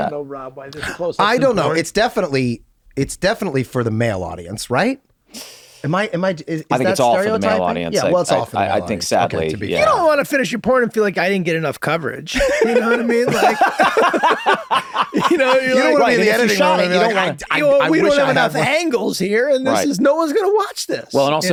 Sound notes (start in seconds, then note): 12.3 group laughs; 16.4 overlapping chatter